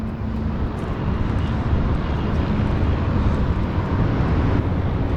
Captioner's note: wind whipping